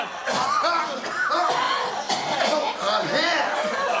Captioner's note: group coughing